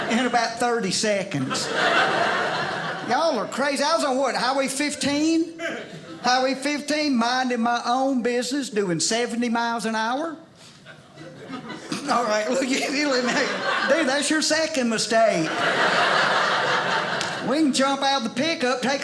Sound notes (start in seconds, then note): 0.0 audience laughing; 10.8 audience laughing